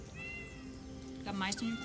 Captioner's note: cat meows